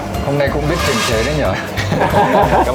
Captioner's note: laugh